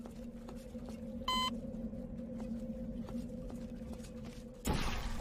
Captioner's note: door beeps